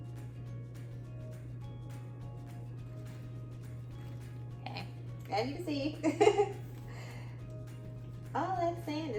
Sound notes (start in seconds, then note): 6.0 laughter